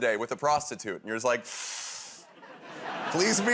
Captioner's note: inhales sharply